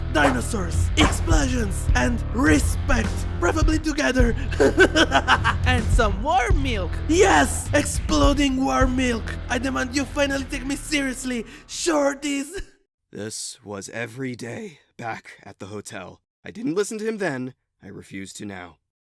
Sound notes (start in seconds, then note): 4.3 laughs